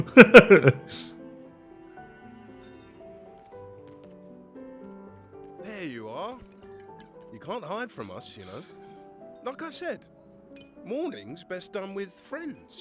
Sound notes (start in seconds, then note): 0.0 laughing; 3.2 sad music